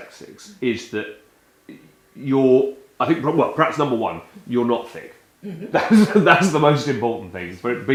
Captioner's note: chuckle